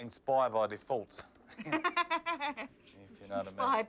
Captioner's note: laughs